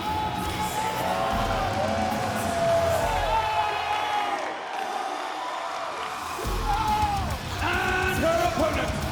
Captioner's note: applause